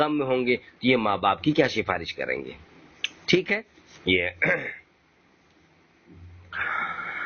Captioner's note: clears throat